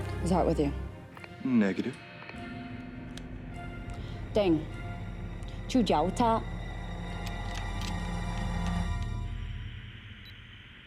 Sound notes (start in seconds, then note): 5.5 speaks foreign language